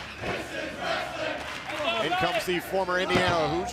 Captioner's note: fans chanting